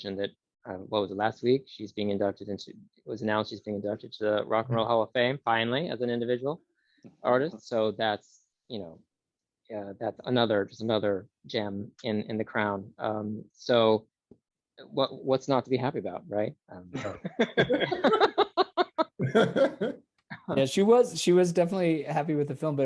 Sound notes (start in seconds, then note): 16.9 laughter